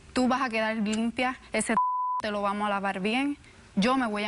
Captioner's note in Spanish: Bip